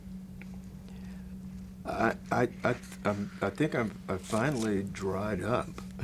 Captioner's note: chuckles